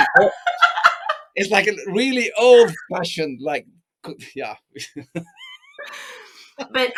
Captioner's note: laughs